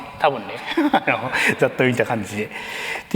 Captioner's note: laughs